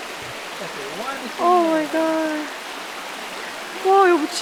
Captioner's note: butterflies fluttering